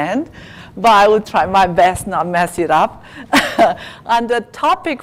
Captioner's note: laugh